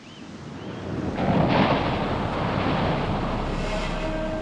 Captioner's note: waves crashing; dramatic music